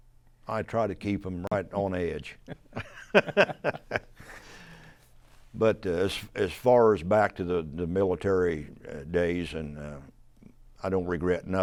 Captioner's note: laughs